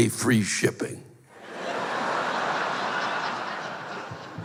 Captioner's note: laughter